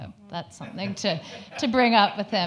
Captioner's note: audience laughing